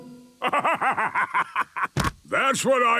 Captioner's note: bursting laughter